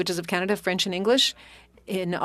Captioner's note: speaking French